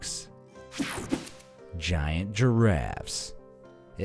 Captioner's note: air whooshing